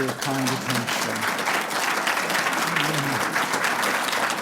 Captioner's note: applause